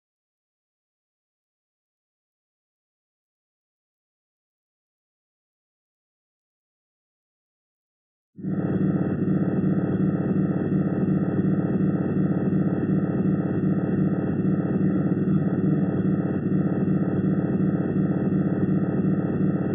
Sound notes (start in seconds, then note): 0.3 long silence; 8.4 strange pulsing sound